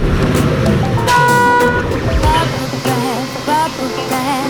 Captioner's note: ATV engine roaring; beep